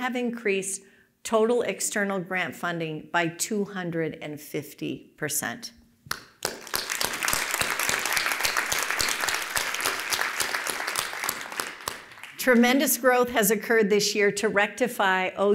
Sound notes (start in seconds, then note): 6.3 applause